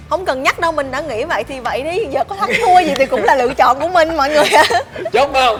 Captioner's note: laugh